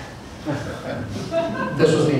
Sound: laughter

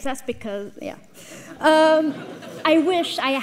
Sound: audience laughs

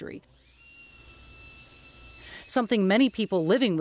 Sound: tools whirring

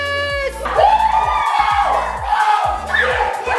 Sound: cheers

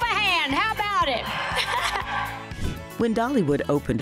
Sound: cheering

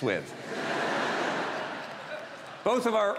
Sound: audience laughs

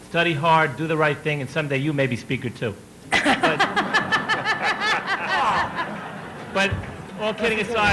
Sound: laughter

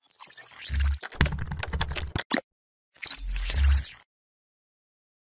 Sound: keyboard keys clacking

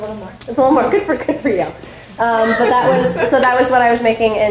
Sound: audience laughing

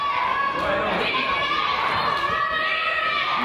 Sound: claps

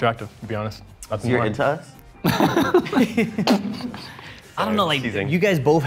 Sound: laughing

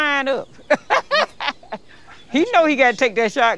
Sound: laughs

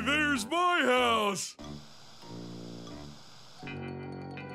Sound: static

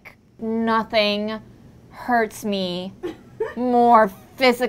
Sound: woman laughs

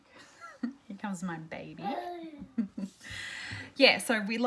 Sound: babbling

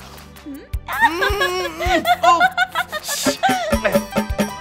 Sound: laughs

